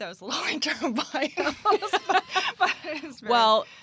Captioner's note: laughter